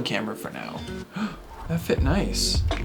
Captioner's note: gasps